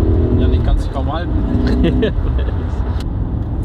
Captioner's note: laughs